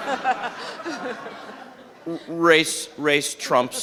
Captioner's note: audience laughs